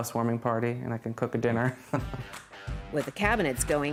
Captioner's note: laughs